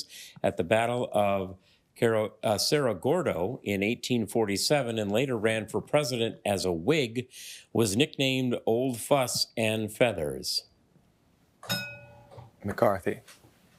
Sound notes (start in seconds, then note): 11.6 bell dings